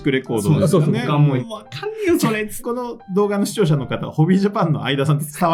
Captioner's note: laughs; laughs